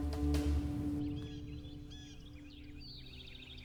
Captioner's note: birds chirping